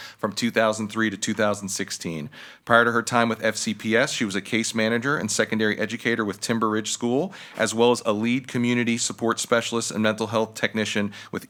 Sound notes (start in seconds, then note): none